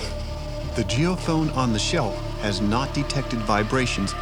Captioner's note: voiceover